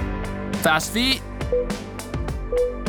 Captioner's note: timer beeping